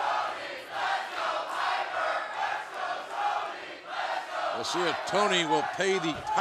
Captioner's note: fans chanting